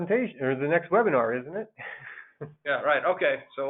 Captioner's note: laughs